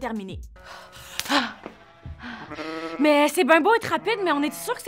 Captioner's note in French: halètement